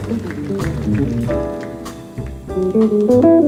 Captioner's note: audience applauding; jazz music continues